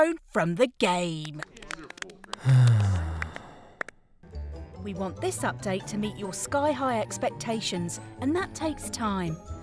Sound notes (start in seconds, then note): 2.3 sighs